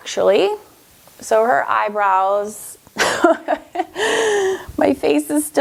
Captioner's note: laughs